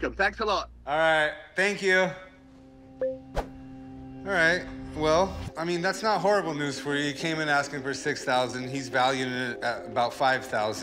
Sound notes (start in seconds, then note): 3.0 remote beeps